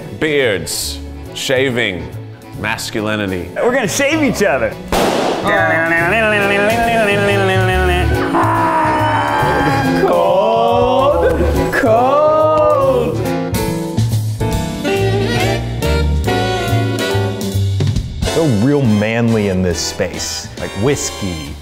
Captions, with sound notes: - Beards, shaving, masculinity. - We're gonna shave eachother! (balloon pops) (mimics guitar) Aah! - Aah! - Cold, cold! - Cold, cold! (jazz music) - Feel real manly in this space, like whiskey,